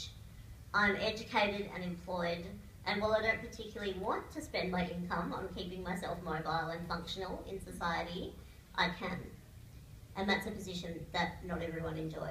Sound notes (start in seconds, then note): none